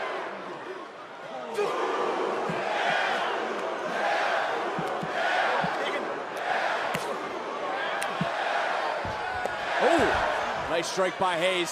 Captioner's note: crowd cheers